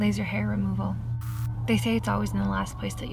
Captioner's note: static crackles